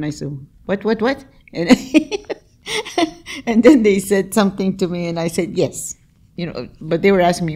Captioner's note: laughs